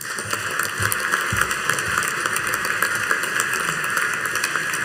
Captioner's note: audience applauding